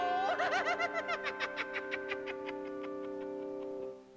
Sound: wizard laughing wickedly

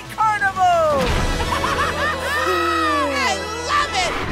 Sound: Crusher chuckles

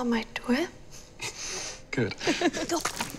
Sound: both chuckle

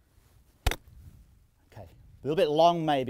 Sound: golf club hits ball

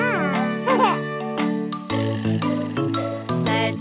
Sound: laughs

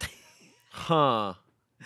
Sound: laughs

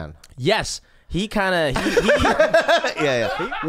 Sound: laughing

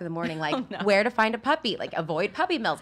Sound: laughs

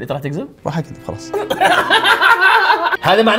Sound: laughs

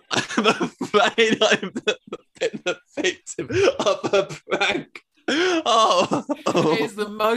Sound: laughter

